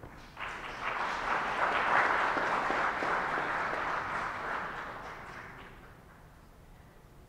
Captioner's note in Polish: oklaski